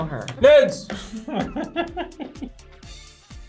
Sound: laughs; both laugh

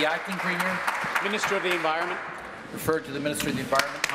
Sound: applause

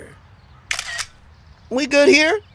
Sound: camera clicks

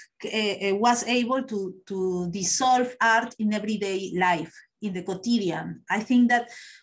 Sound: spanish

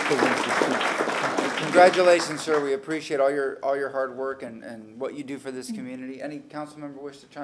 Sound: applause

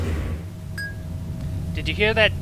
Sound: ding

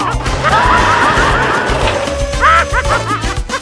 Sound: all scream

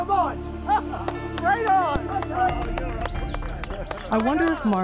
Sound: laughs

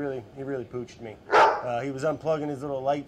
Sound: dog barking noise

